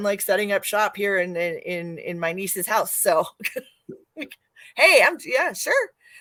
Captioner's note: laughs